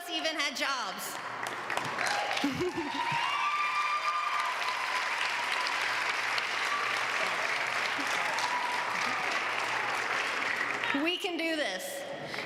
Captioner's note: applause